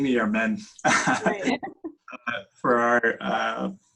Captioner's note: laughs